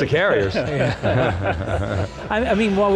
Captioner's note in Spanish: Risas